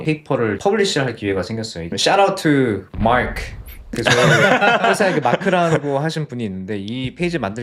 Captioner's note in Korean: 웃음